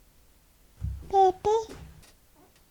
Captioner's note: baby gibberish